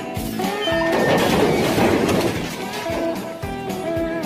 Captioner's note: crash